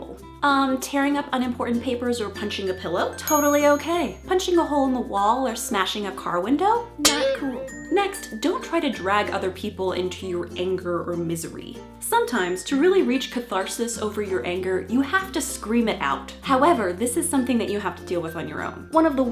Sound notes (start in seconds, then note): 3.1 ding; 7.0 boing